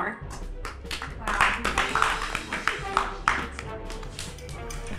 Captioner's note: applause